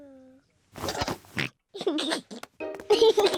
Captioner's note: oinks and giggles